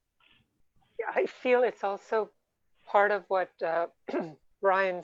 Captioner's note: clears throat